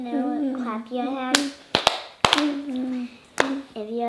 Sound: hands clapping

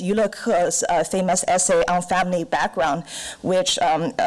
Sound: foreign language

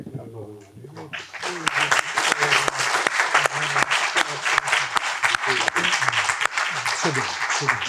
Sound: applause

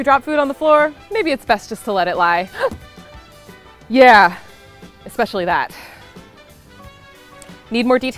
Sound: gasp

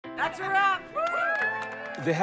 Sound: cheering

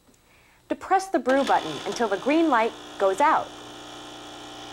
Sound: buzzing sound begins

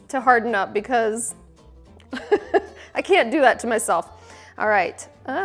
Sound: laughs

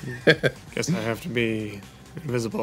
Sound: laughing

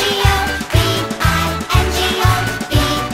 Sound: rhythmic clapping

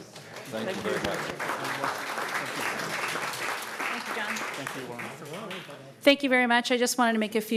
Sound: applause

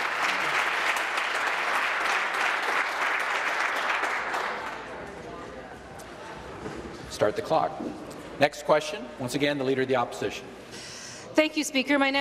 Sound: applause

